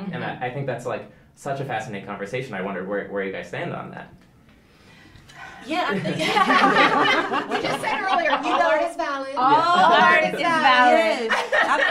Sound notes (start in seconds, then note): 5.5 all laughing